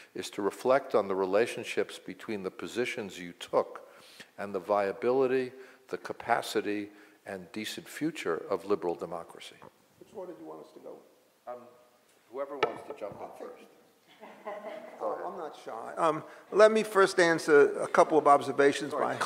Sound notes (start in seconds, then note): 14.1 laughs